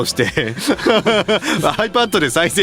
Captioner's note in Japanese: 笑い